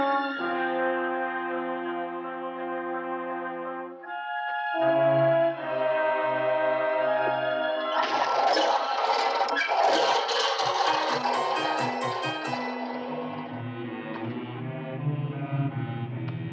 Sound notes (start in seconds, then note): 7.9 wheels rattling